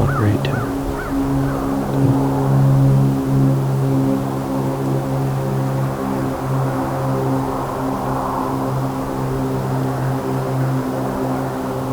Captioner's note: wind/road noises